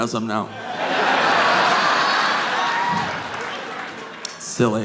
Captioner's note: audience laughing